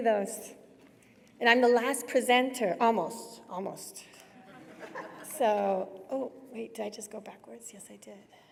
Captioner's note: laughter